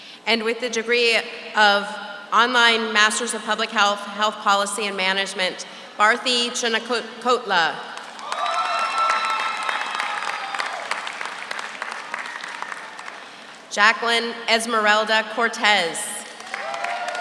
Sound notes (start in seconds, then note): 8.0 audience applauds; 8.1 audience cheers